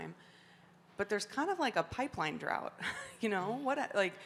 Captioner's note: chuckles